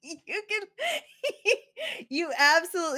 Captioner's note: laughs